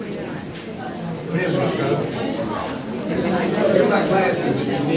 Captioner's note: crowd talking indistinctly